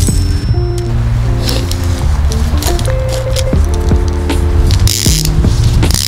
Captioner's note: sniffling